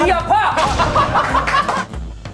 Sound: hahaha

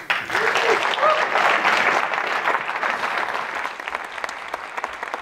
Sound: audience applauds

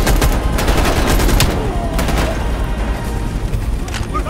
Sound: gunshots

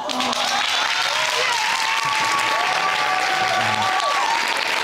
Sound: applauding

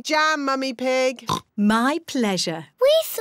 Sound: oinks

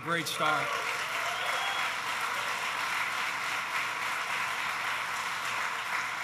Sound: applause

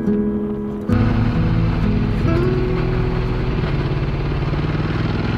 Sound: motorbike roaring

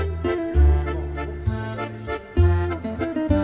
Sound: French

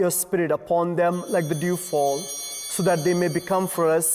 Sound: chimes ringing

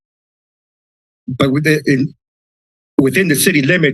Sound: pause

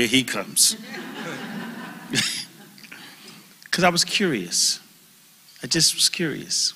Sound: laugh

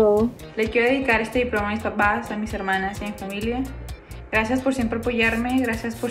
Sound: speaks in foreign language

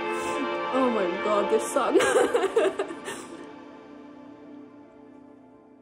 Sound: giggles

